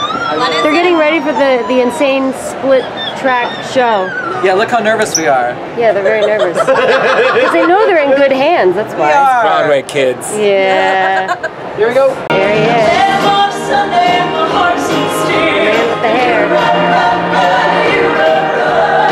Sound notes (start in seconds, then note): 0.0 lip trills; 5.9 laughs